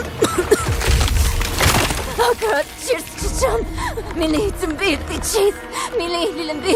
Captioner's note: chanting and coughing